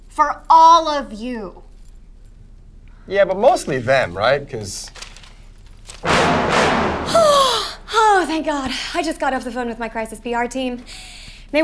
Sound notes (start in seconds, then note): 6.0 dramatic music; 7.2 sighing